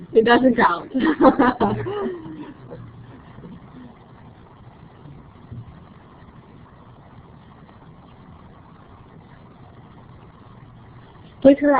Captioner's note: laughing